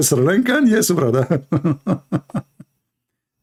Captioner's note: Ketawa